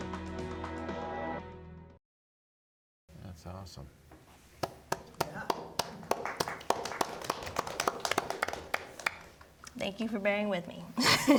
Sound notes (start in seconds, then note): 4.9 audience applauding